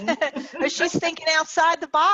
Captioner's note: laughing